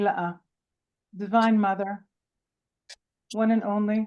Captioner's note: speaking in Hebrew